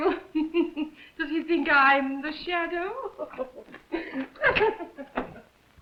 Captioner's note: giggles